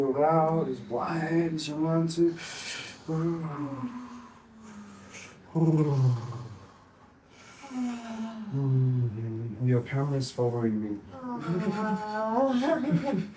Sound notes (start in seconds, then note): 5.3 breathing deeply